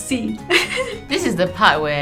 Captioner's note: laughs